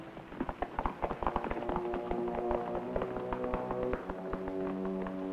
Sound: horse hooves thunder

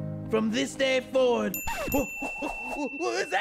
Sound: bell dings

